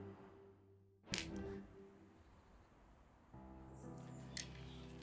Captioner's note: dice click on the ground; gentle piano music